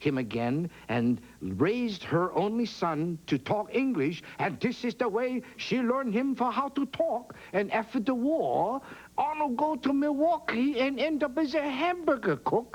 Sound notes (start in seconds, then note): 3.2 chinese accent